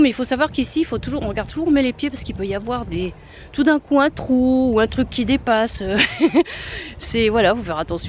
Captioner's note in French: rire